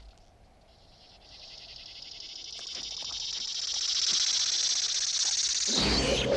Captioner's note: hissing